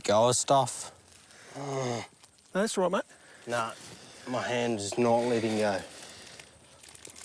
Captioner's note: groans